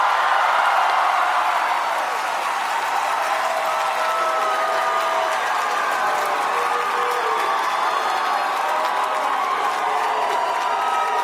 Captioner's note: applause; cheering; applause; cheering